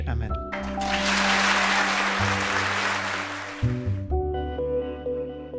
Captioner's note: audience applauds; bright music